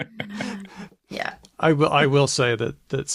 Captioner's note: laughter